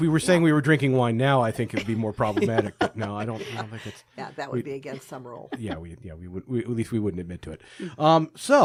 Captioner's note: all laughing